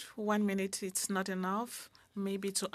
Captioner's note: speaking French